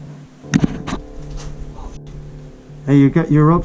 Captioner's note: clunk